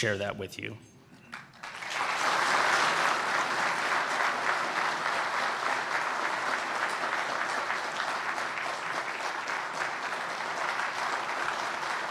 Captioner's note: applause